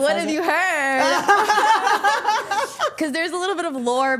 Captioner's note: all laughing